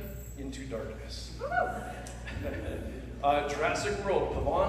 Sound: laughter

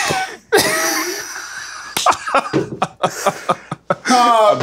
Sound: laughter

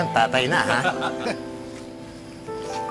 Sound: laughter

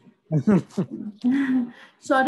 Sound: chuckles

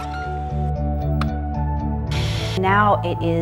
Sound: click; white noise

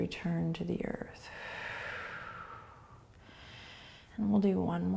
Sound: breathing

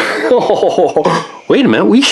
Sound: laughs

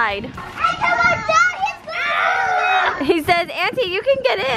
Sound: children screaming

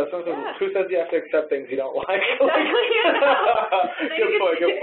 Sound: laughs

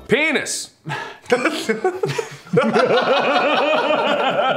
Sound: all sighing and laughing

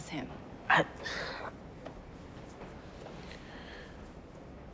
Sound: Kevin sighing

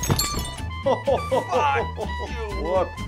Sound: chuckling

